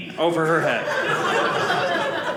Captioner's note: audience laughing